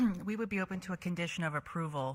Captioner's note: clears throat